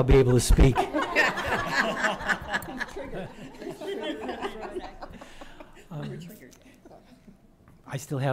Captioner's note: laughter